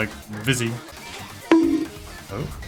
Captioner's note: bonk